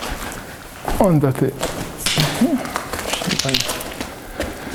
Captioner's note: swears